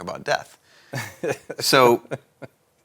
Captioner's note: laughs